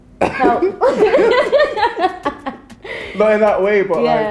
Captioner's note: both laughing